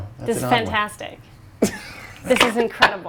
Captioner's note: laughs